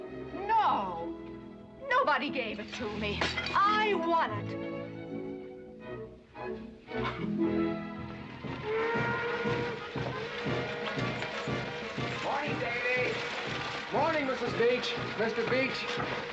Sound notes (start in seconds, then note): 8.6 train whistle blowing; 9.7 marching band playing